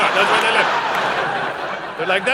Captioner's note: audience laughing